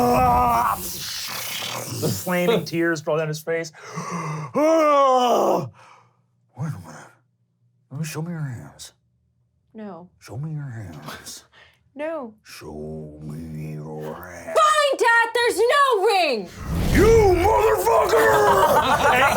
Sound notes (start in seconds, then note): 0.0 wailing; 5.1 shouts